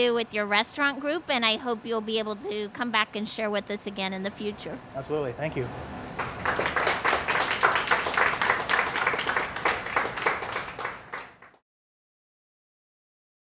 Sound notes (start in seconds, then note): 6.1 applause